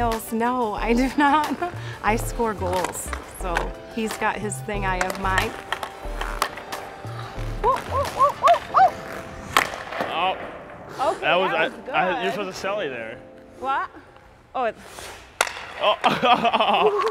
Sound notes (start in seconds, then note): 7.6 chanting; 15.8 laughing